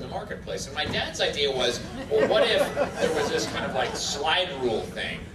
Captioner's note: audience laughter